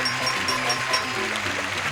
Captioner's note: bells dings